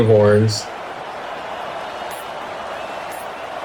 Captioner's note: crowd Noises